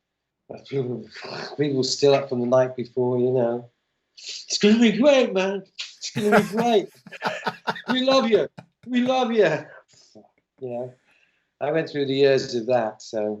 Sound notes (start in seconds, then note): 6.1 laughter